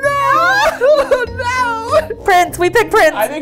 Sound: both laughing

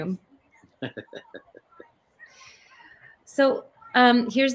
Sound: chuckles

